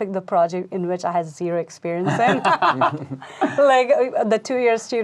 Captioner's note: laughing